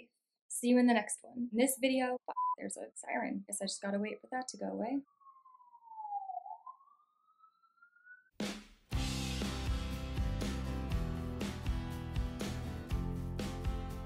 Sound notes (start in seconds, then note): 5.1 continues blaring; 8.9 end card music